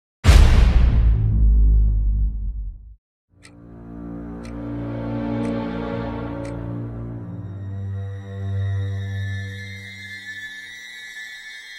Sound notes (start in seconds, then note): 0.2 eerie dramatic music; 4.3 clock ticking